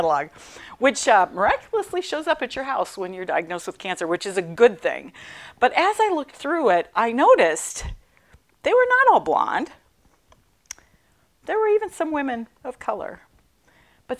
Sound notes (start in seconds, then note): none